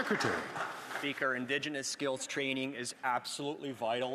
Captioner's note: some Applause